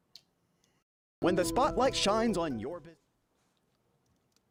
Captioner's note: voiceover